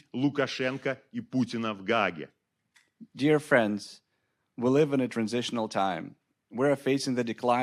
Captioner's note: speaking Belarusian